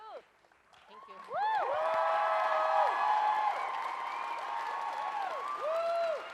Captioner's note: audience cheers and applauds loudly